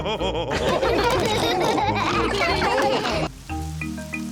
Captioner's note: all laughing